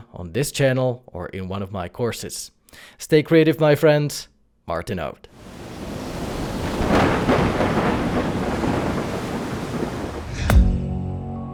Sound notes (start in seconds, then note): 5.3 waves crashing; 5.4 lightning crashing